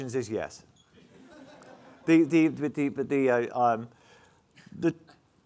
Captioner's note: audience laughing